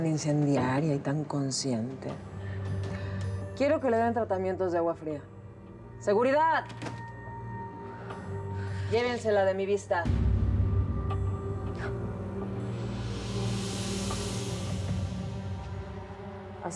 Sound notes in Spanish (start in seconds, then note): 6.6 Sonido al abrir la puerta